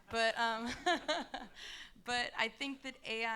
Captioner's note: laughs; audience laughing